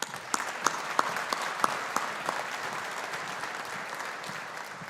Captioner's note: audience applauding